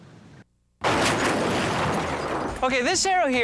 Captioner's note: crashing sound